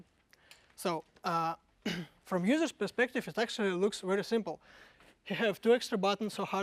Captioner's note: cough